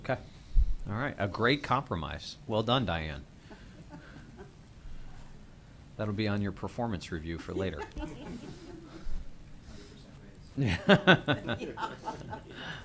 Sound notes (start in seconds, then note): 7.4 laughter